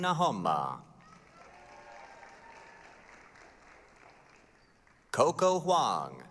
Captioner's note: applause, cheering